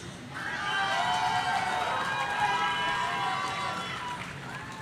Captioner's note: audience cheering